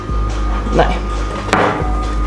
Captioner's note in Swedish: smäller ölglaset i bordet